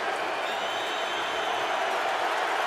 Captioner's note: crowd cheering